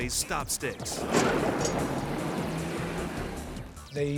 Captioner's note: vehicle thuds